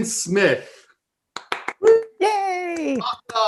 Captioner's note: clapping